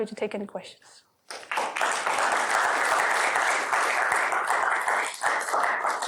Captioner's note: applause